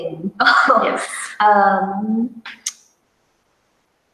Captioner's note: chuckles